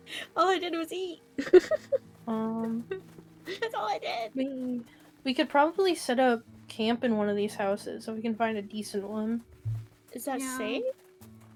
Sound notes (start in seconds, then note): 1.4 laughs